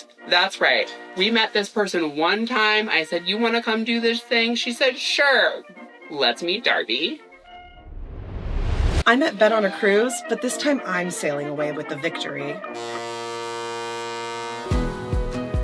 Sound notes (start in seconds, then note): none